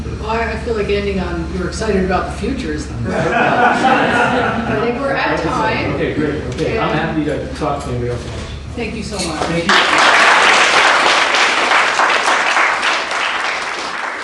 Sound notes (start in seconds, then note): 3.0 laughter; 9.6 applause